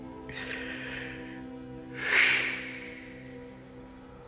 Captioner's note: sighing